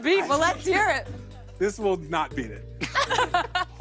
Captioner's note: laughter